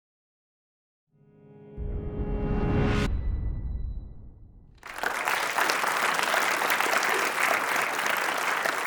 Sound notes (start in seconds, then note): 1.2 dramatic music plays; 4.8 audience applauds